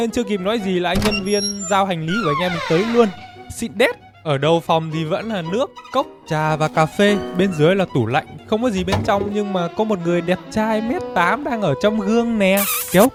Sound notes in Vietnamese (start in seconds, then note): none